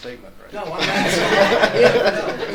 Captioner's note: audience laughs